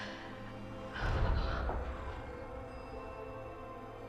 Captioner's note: ominous Voice